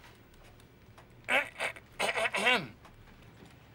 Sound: coughs

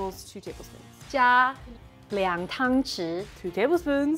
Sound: speaking in mandarin

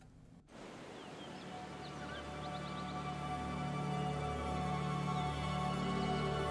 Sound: water rushing; light bright music

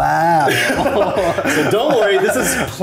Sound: both laughing

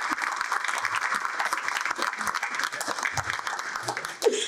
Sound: clapping

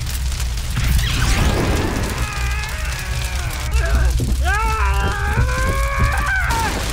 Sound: Madhouse screams with adrenaline/effort/pain; crash!

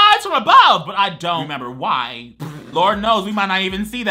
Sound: laughs

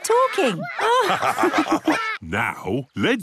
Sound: all laugh

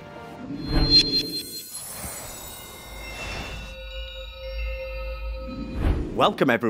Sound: screen whooshes

